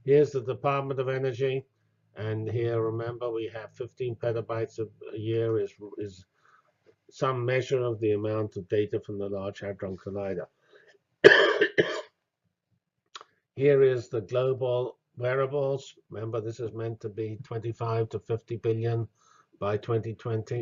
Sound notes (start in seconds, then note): 11.2 cough